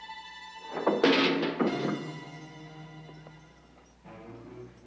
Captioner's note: pail crashes